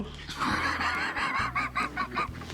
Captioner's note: laughs